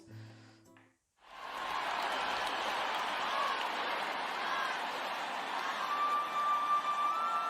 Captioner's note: applause